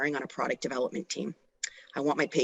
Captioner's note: none